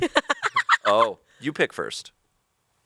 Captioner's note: laughs